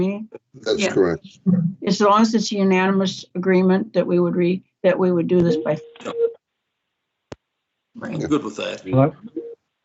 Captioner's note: audio breaks up